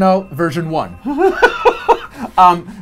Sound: laughing

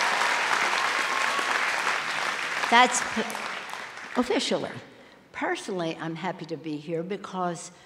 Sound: cheers and applause

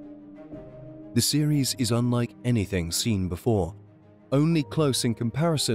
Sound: voiceover

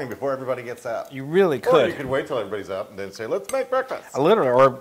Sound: laugh

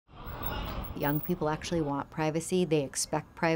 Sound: background street noise

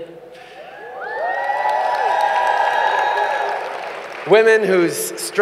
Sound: cheers & applause

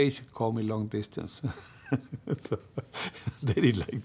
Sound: laughs

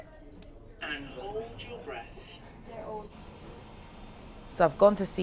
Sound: automated Voice

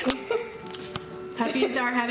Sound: laughing

